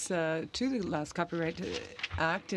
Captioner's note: speaking French